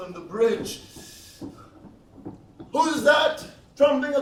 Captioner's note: feet tromping